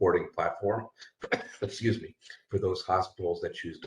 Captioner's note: coughs